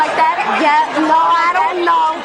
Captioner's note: audience hollering